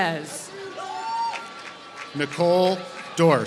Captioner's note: applause